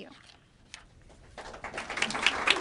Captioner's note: applause